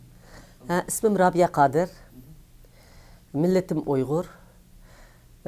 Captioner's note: speaks in foreign language